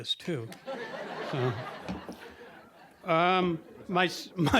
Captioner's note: audience laughing